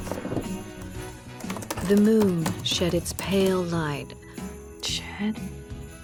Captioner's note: typing